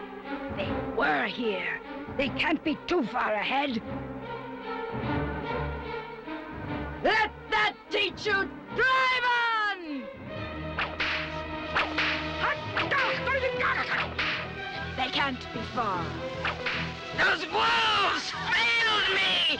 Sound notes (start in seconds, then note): 10.7 whip cracks; 12.6 dwarf barks commands in strange language